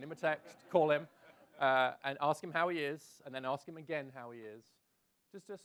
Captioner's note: laughs